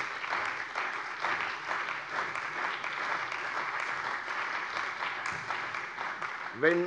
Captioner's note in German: Beifall bei der CDU und dem BÜNDNIS 90/DIE GRÜNEN